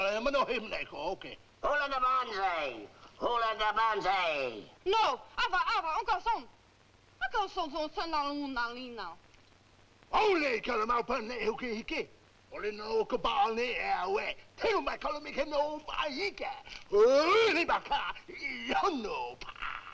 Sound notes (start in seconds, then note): 5.8 woman speaking in foreign language; 10.0 father speaking in foreign language